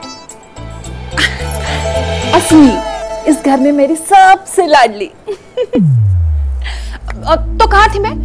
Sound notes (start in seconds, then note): 0.8 Laughs; 5.0 Giggling